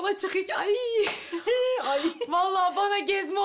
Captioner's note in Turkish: Gülme sesi